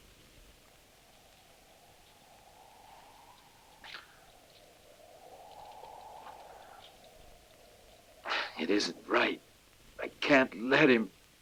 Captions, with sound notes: (wind whooshing) - It isn't right. I can't let him.